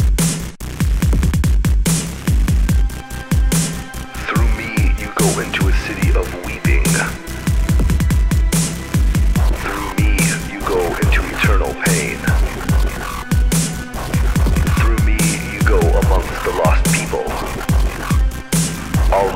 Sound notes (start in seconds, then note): none